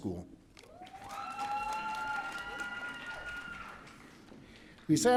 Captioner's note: audience cheering